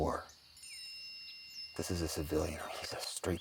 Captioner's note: phone dings